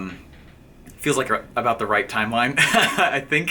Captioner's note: laughing